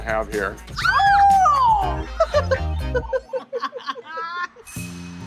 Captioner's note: both laugh